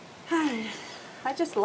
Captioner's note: sighs